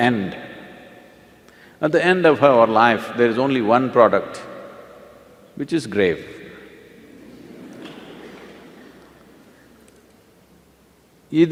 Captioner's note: laughter